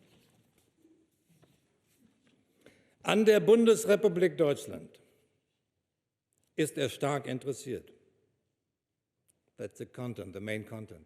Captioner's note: speaks German